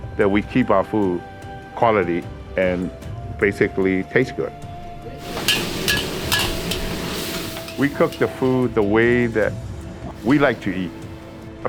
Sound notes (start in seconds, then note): 5.2 sound of food cooking